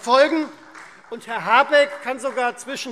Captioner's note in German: Beifall Freie Demokraten